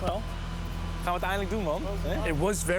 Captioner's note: speaking in foreign language